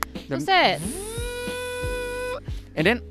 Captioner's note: buzzer imitation